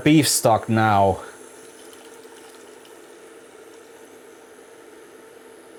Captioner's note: sizzling